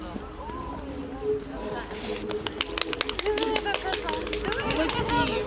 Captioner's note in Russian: оплески